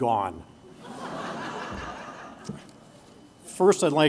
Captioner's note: laughter